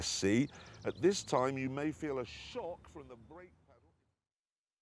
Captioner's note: voice fades out